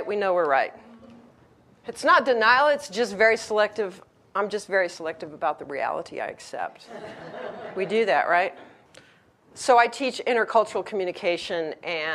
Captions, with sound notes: we know we're right. "It's not denial, I'm just very selective "about the reality I accept." (audience laughs) We do that, right? So, I teach intercultural communication,